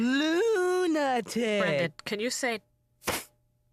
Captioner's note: sounding out word